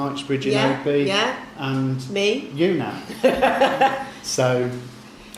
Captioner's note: laughs